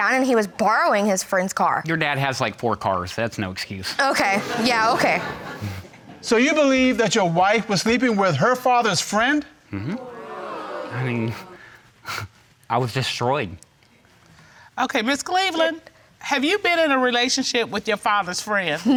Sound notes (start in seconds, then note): 9.7 scoffs; 9.7 audience gasps